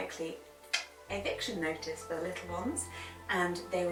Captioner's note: clicks tongue